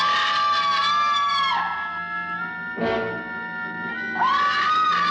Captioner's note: person screaming